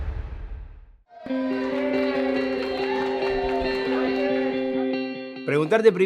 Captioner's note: shouting and applause